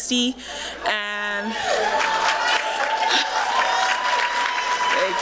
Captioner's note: applause